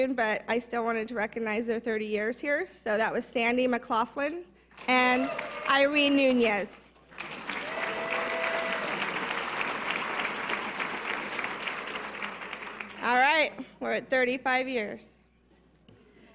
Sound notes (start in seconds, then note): 7.1 audience cheers and applause